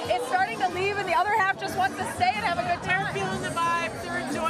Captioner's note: cheering